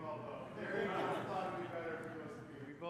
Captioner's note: laughter